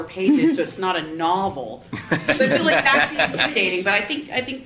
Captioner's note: laughs